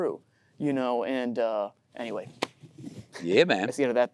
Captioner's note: hands thudding